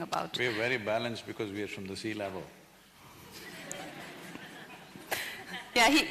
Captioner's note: few laugh